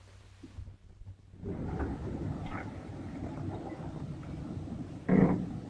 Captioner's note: engine rumbling